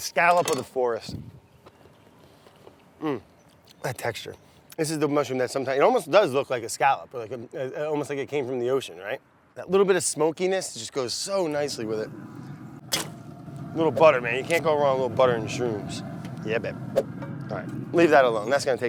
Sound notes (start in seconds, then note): 13.0 clanging